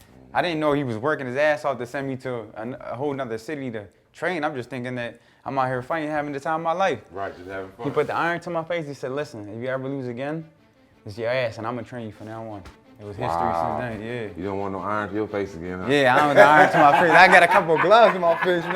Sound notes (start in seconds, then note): 16.1 laughing